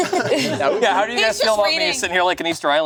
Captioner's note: laughs; group laughing